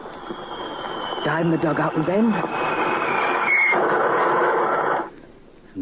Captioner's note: bomb exploding